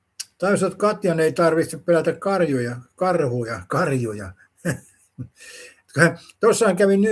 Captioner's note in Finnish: naurua